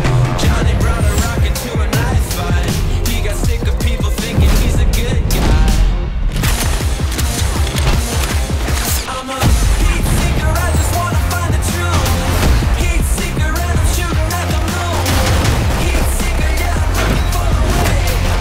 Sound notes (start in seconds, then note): 0.2 singing; 6.3 guns cocking